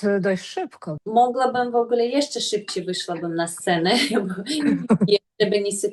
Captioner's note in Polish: śmiech